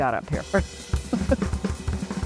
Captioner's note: laughs